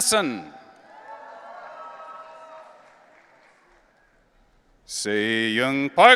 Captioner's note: audience cheering